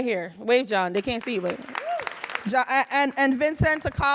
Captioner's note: audience applauding